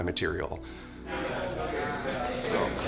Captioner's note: people chattering